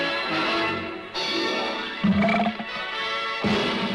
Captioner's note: belches